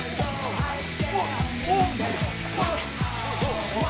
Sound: all the various noises you would make when slipping on oil

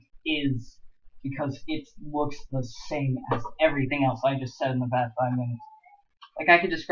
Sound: weird Purple Noises

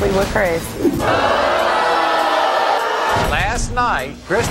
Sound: audience booing

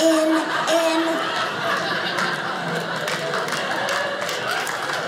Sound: audience laughing; audience applauding

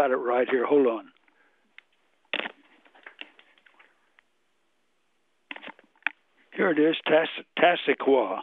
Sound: pause

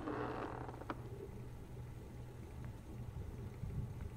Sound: creaking

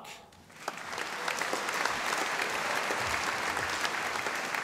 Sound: audience applauding

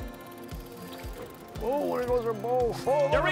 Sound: boat engine revving; upbeat country music

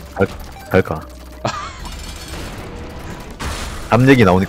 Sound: laughs

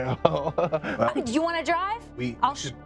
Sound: laughing

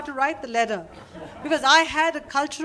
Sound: laughter

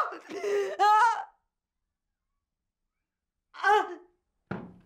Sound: crying

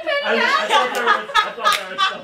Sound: laughter

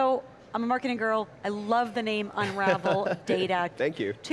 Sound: laughs

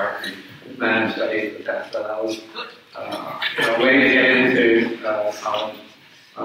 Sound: speaks away from mic

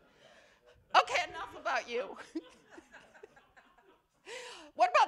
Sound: laughter

